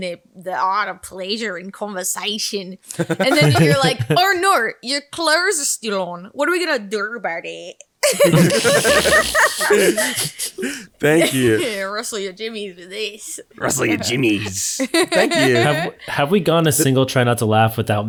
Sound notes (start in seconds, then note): 2.9 all laughing; 8.0 all laughing loudly; 13.7 laughing